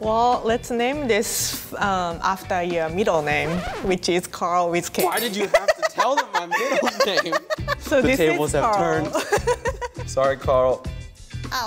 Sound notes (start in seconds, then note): 3.1 record scratching; 8.9 laughs